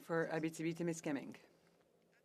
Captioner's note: speaking FRENCH